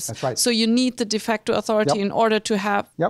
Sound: voiceover

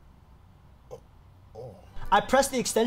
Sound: groans lightly

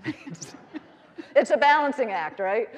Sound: all laughing

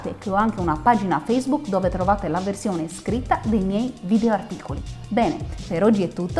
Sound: italian

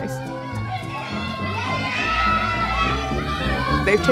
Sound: kids cheering

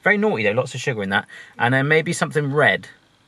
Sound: none

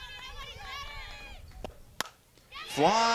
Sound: bat hits ball

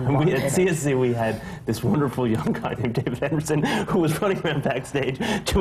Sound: laughs

